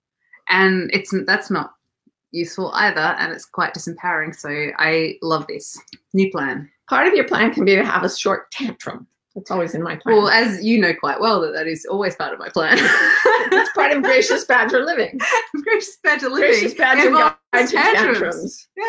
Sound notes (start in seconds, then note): 12.7 laughs